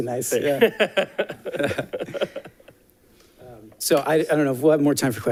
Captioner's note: laughter